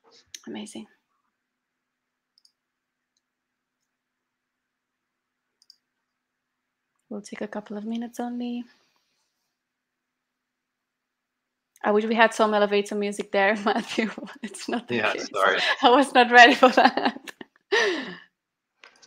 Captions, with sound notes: Amazing. We'll take a couple of minutes only. I wish we had some elevator music there, (laughter) Matthew but it's not the case. - Yeah, sorry. - I was not ready for that. (laughter)